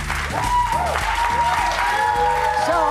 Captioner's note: cheers and applause